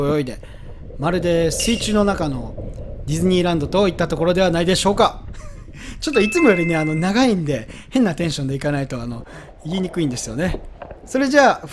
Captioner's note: haha